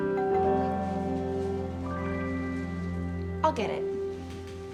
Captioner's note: doorbell ringing